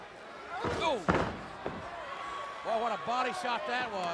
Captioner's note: body thuds